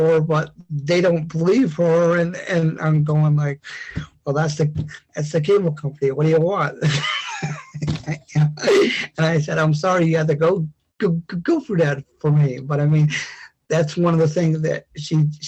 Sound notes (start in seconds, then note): 6.8 laughs